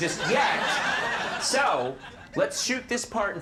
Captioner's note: audience laughing